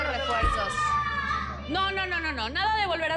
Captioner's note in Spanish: Hablan al unísono